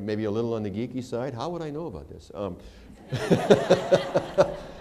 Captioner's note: laughter